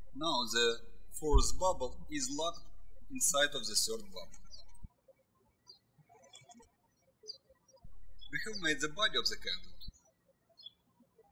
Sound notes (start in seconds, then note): 5.0 birds chirping; 10.5 birds chirping